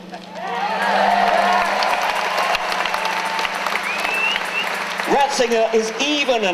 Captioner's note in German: Jubeln